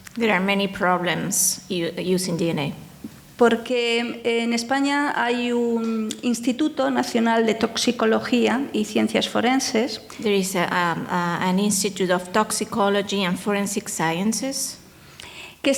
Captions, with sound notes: - There are many problems in using DNA. (speaking in foreign language) There is an institute of toxicology and forensic sciences.